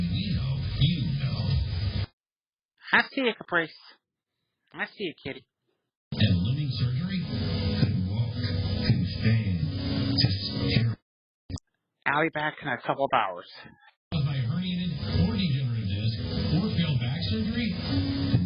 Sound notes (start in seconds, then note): 4.7 "21Alive News at 4" plays in background; 14.1 "21Alive News at 4" plays in background